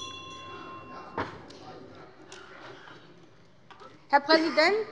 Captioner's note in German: Glockenzeichen des Präsidenten